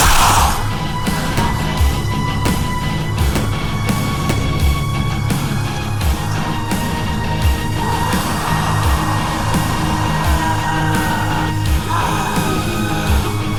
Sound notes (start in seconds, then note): 0.0 gunshots